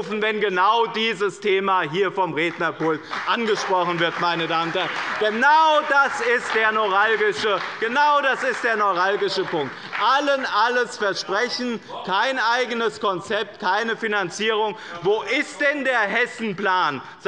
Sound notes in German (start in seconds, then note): 4.0 Beifall bei dem BÜNDNIS 90/DIE GRÜNEN und der CDU